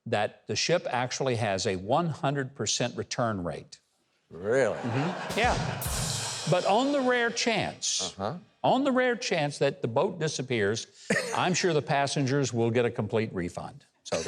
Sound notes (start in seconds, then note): 4.4 audience laughs; 5.2 drum roll; 5.3 cymbal rings